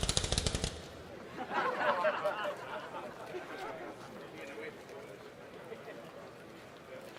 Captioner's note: laughter